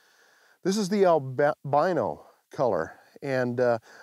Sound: none

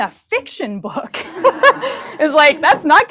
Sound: laughter

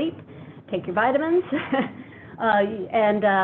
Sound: laughing

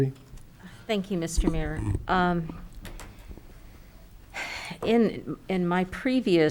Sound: sighs

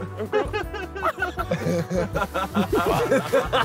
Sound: all laughing

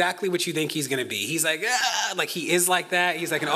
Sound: grunts

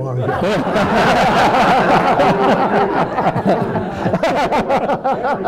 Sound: attendees laughing

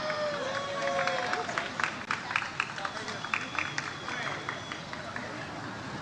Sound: audience cheers and applauds

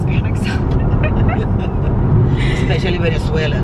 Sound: laughing

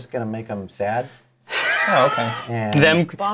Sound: laughs

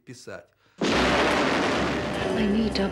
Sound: explosion

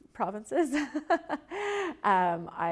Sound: Karina laughs

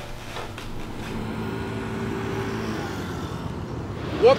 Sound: motorcycle whirring

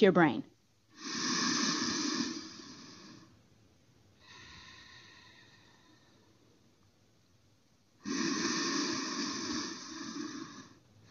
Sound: breathing

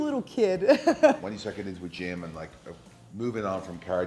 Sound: laugh

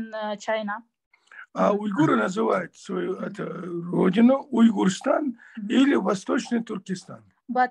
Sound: in Russian

